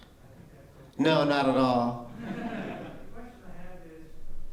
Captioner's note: laughter